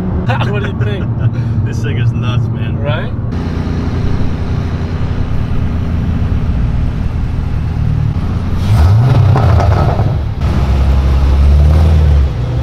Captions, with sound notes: (laughing) What do you think? - This thing is nuts, man. - Right. (car engine)